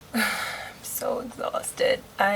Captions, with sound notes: (sighs) I'm so exhausted!